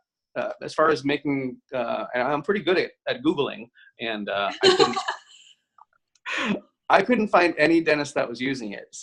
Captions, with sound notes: but as far as making, I'm pretty good at Googling. (both laugh) I couldn't find any dentist that was using it.